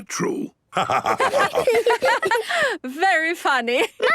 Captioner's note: laughter